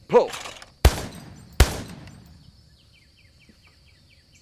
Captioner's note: gun firing